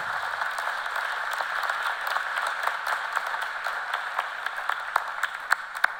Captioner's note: applause